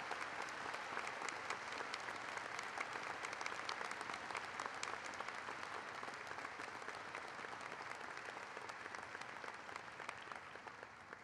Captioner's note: applause